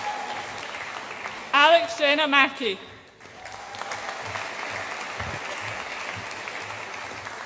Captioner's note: audience applauds